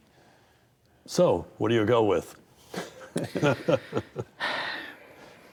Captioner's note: chuckles